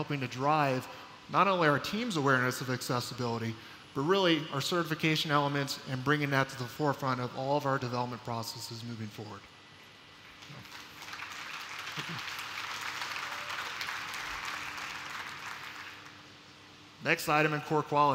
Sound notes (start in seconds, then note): 10.4 applause